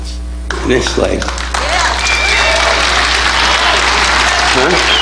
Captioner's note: audience applauding